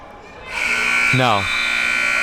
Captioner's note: buzzer sounding